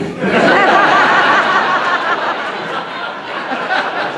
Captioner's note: audience laughing